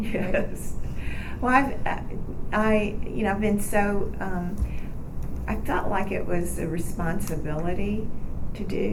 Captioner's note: laughs